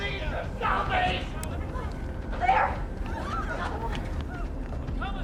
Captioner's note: yelling and screaming